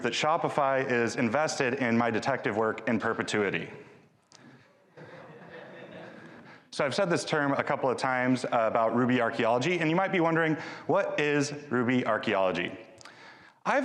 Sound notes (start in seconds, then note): 4.9 audience laughing